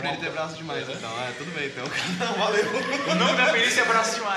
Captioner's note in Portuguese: Risadas